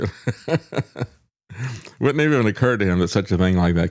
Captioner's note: laughs